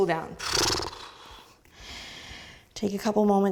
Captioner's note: sputtering breath